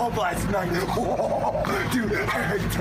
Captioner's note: laughter